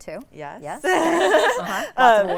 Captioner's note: laughs